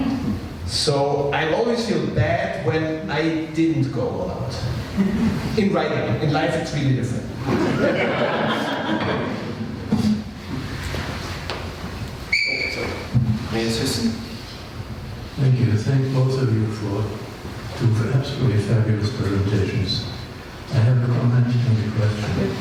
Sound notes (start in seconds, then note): 7.4 laughter